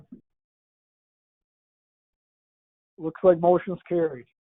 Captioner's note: silence